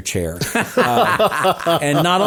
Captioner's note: both laughing